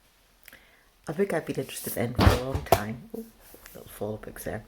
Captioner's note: sound of books falling